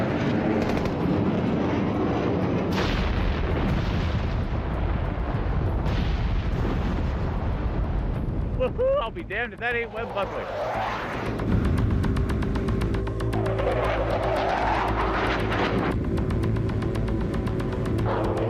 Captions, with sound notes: (explosions booms) Woo hoo, I'll be damned if that ain't Webb Buckley. (engine whooshing)